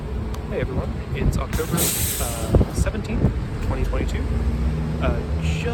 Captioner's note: pneumatic hiss